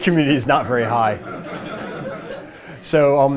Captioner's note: laughter